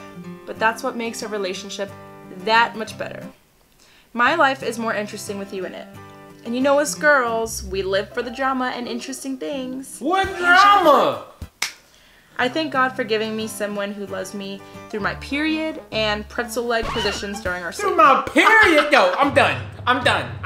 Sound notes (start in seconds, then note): 16.9 laughs